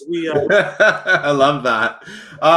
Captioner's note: laughs